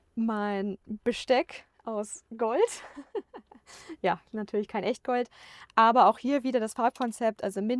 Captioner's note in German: gelächter